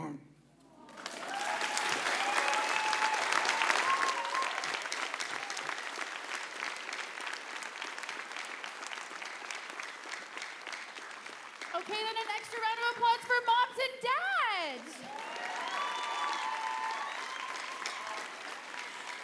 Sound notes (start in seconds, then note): 4.9 cheering and applause